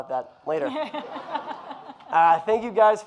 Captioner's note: audience laughing